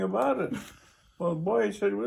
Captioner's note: interviewer chuckles